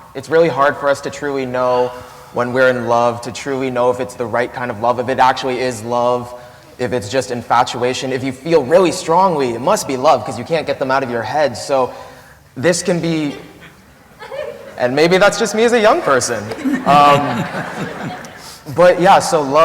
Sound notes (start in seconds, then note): 16.4 laughter